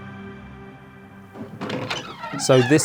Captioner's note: ♫ Mysterious music ♫; door creaking